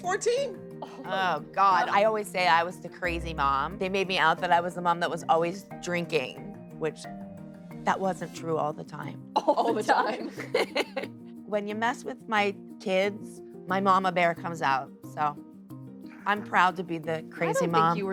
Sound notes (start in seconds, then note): 9.4 both laugh; 9.4 laughs